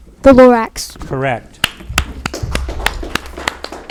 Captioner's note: audience applauding